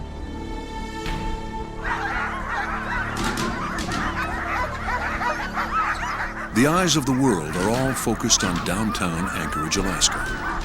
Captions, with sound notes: (dogs barking) The eyes of the world are all focused on downtown Anchorage, Alaska.